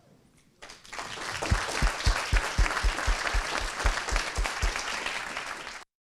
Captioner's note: applause